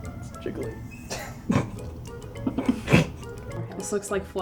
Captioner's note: snickers